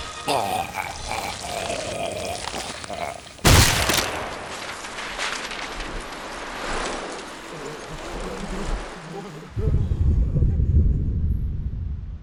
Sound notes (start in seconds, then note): 0.2 incoherent gurgling; 3.4 explosion; 3.6 paper flickering; 7.4 Nazis chattering